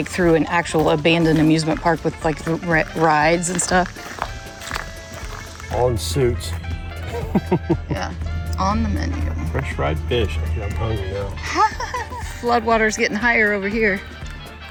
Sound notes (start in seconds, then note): 7.0 laughs; 11.4 laughs